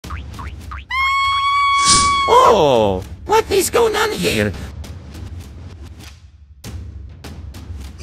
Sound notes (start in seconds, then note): 0.9 Peach screams